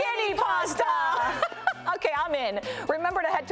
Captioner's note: laughs